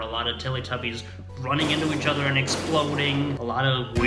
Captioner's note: sped-up explosion SFX